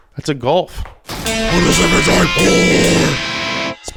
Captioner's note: demonic Voice